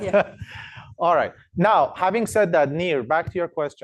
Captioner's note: laughs